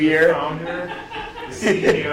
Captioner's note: laughing